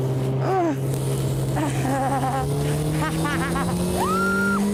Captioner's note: laughs nervously